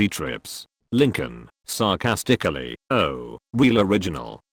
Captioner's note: sarcastically